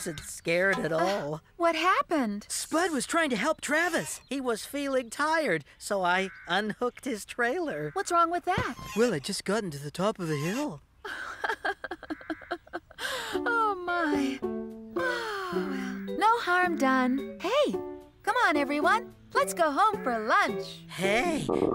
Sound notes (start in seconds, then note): 11.0 chuckling; 21.4 tummy Growling